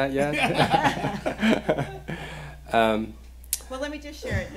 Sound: laughing

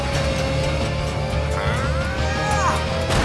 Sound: grunting

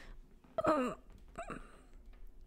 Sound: grunting

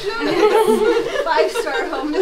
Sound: chuckling

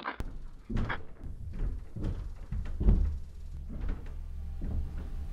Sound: footsteps on roof

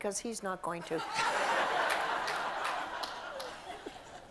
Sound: audience laughs

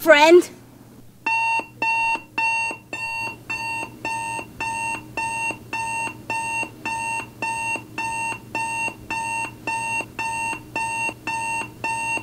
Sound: alarm clock

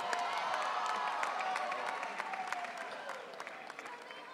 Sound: audience cheering

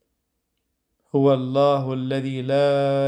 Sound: Arabic

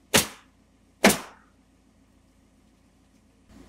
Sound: nail gun bangs

